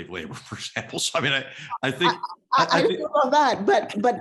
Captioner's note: laugh